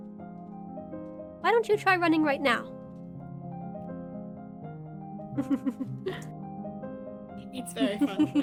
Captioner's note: giggles